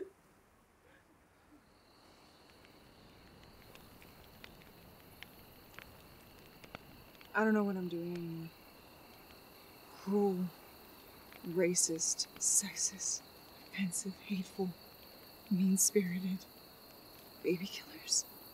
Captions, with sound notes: (fire crackling) (bugs chirping) - I don't know what I'm doing anymore. Cruel, racist, sexist, offensive, hateful, mean-spirited, baby killers.